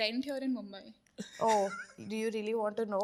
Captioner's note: everyone laughing